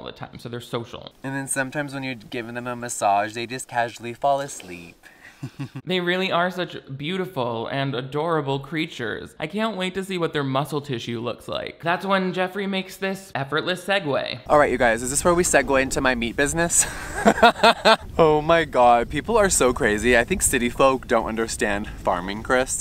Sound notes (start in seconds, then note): 16.8 laughs